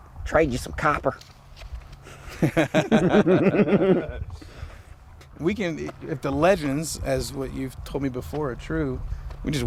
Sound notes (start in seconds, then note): 2.0 laughing